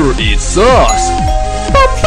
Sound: doorbell!!! 🚪🛎️

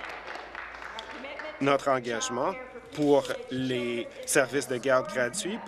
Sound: applause

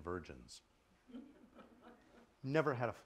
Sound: laughter

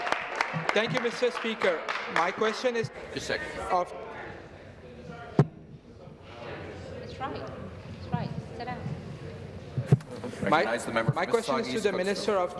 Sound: applause

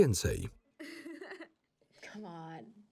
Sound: Lana laughs

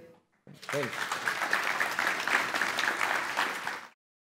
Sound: applause

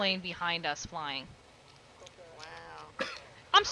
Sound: cough-laughs

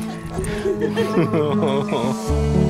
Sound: laughter

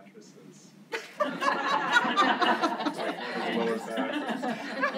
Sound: laughs

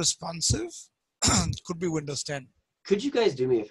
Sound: clears throat

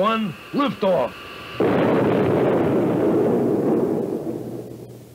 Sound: loud boom

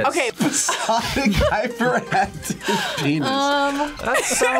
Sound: laughs

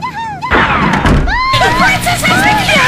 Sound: screams

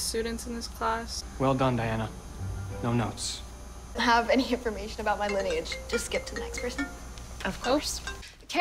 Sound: phone rings

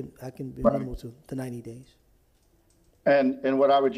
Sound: ~interference~

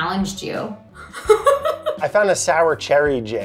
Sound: Elizabeth laughs

